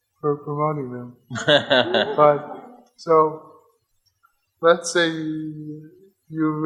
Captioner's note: audience laughs